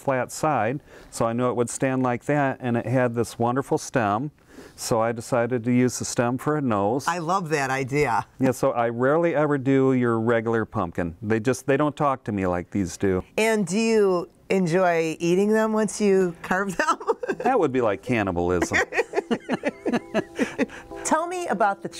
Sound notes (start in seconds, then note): 18.5 man and woman laugh; 18.6 laughs